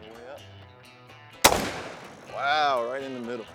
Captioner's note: gunshot